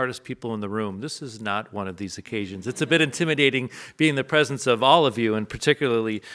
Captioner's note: audience laughs